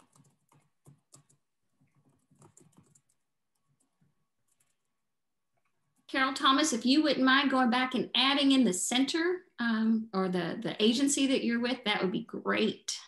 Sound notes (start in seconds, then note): 1.6 silence